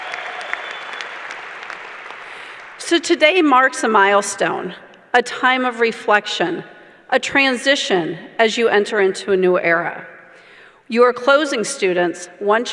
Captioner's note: cheering